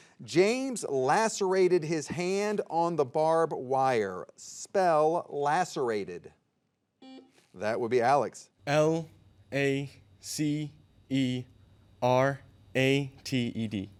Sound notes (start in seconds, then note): 7.0 soft beeping